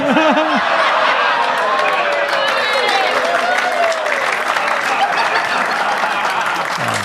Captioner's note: audience laughs; audience claps